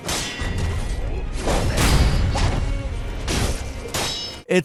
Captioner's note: swords clanging